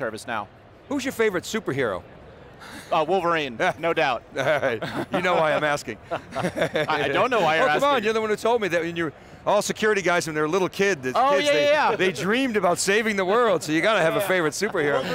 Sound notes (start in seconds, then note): 6.2 laughing